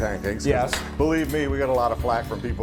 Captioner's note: utensils clanking